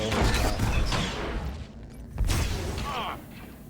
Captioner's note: gunshots